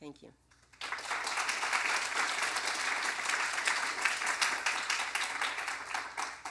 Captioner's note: applause